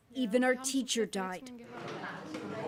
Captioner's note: speaking alternate language